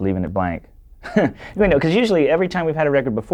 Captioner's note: laughs